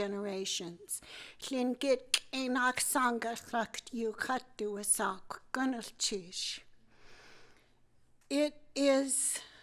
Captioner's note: speaking tlingit